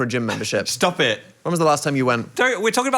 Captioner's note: laughing